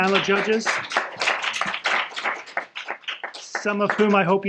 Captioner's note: applause